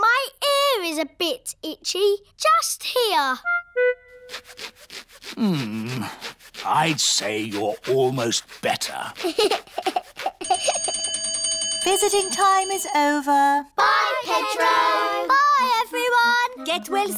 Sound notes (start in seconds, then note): 9.1 giggles; 10.4 bell rings